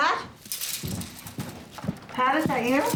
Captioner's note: rustling